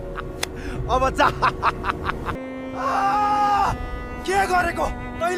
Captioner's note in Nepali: हास्य; चिच्याएको आवाज